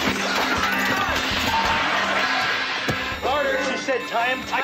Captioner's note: yelling